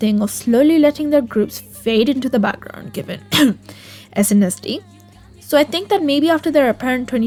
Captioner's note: cough